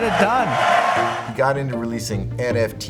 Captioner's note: audience cheering